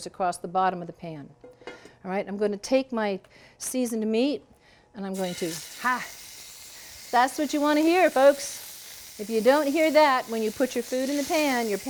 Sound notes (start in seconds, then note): 5.1 oil sizzling